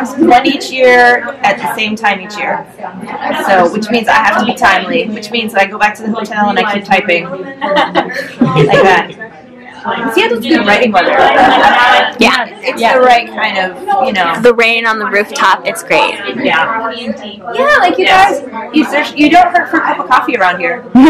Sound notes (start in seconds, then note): 11.6 murmured agreement